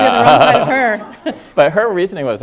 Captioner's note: audience laughing